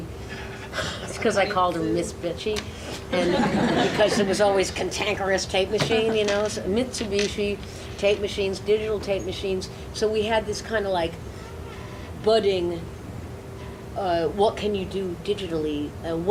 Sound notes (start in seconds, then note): 0.3 laughs; 3.1 audience laughs